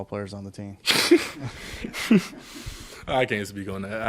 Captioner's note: man laughing